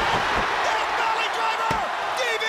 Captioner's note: crowd cheering